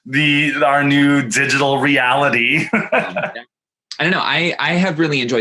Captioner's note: laughs happily